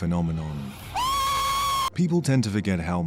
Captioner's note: grown man screaming